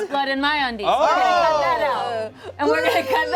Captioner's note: cast exclaims